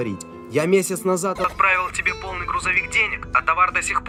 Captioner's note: on phone